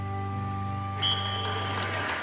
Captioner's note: referee's whistle